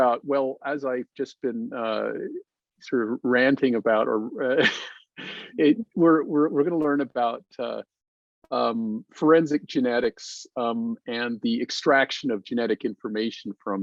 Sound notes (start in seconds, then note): 4.4 chuckles